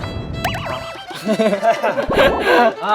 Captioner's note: sigh; laughing but not actually